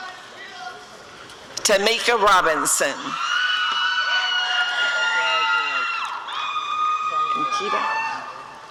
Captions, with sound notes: Tameka Robinson [audience cheering]